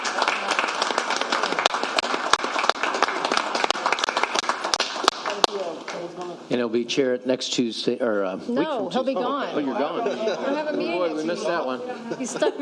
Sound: applause

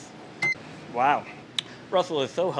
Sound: camera beeping

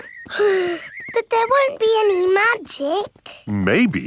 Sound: sighs

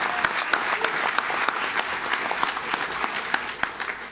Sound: audience cheers; audience claps

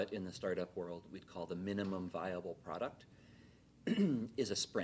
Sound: clears throat

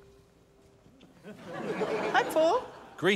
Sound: laughter

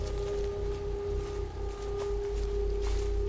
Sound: footsteps

